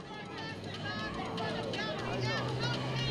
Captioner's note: shouting